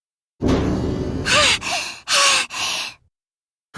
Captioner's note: labored breathing